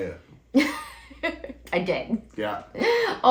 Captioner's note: laugh